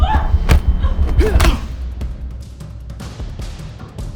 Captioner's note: both moaning